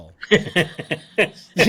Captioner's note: laughs